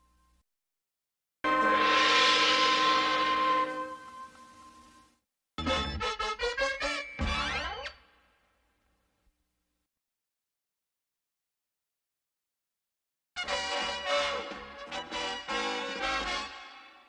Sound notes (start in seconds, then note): 10.3 silence